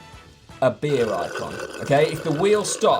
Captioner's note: straw slurping